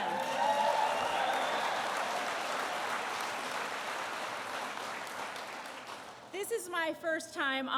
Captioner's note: applause